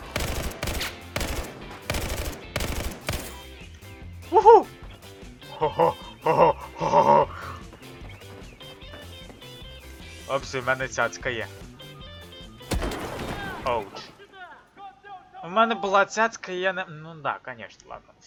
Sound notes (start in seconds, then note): 0.0 sounds of shots; 5.4 laugh; 12.7 headshot sound